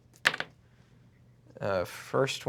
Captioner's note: rolls dice